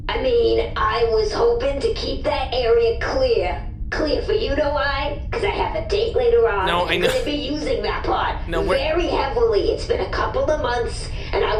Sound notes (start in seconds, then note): 6.7 laughs slightly